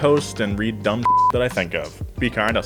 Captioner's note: beep